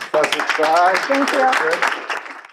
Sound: audience claps

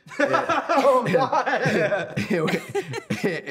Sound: laughter

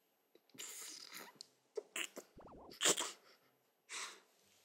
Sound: laughs

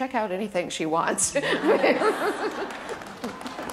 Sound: laughter

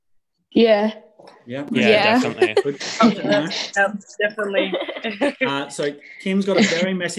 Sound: students chattering in agreement

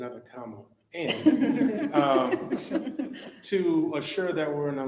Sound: members laughing

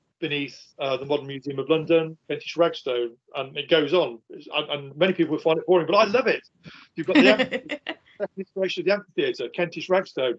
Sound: laughing

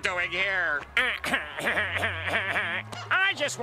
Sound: chortling

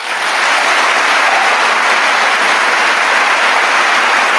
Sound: audience applauding

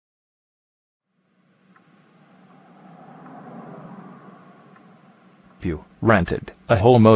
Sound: outside traffic sounds

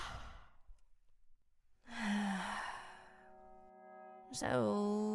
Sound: sighs

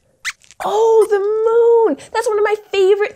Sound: squeaks squeaks

